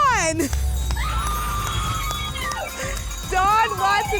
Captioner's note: applause and cheering